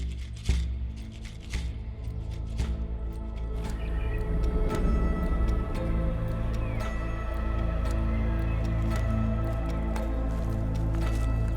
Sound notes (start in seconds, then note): 2.9 birds chirping; 7.1 gentle upbeat music